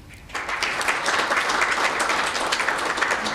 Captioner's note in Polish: oklaski